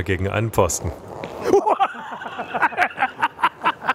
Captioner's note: surprised sound, laughter